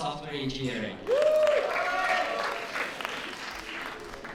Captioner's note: applause